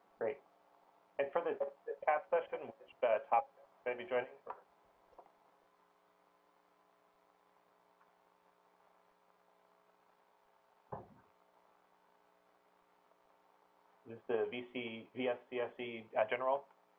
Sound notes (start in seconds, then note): 5.1 pause; 16.8 pause